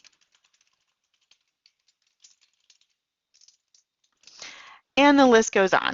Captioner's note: typing